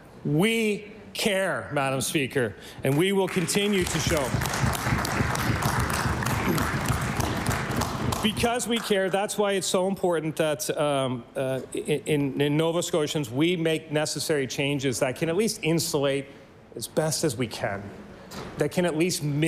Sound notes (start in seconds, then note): 9.7 applause